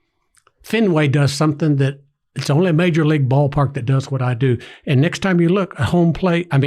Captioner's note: none